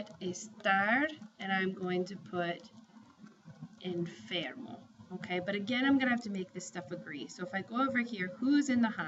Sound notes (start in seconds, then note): 3.6 spanish; 6.2 spanish